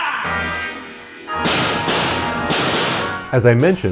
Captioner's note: gunshots